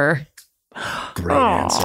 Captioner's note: man gasps